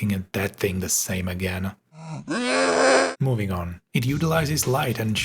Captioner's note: growling